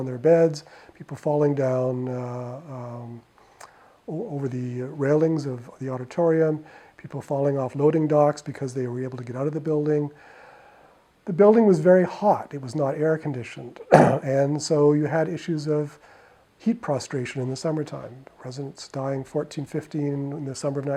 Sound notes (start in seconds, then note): 13.8 clears throat